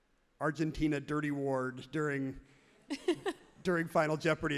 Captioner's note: everyone laughs happily